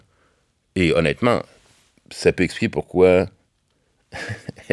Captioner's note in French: petit rire